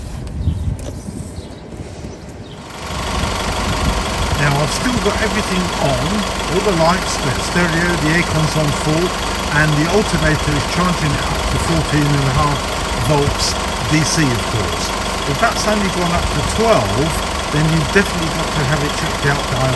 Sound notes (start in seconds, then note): 3.0 car engine whirring